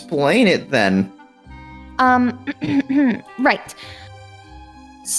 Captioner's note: clears throat